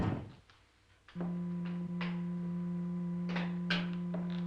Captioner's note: machine whirring